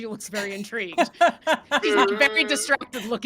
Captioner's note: laughs